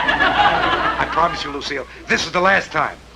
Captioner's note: audience tittering